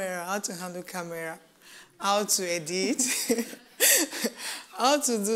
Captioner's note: laughs